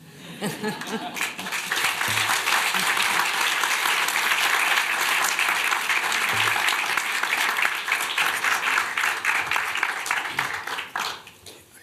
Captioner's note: applause